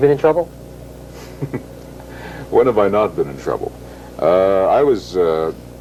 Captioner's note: snickers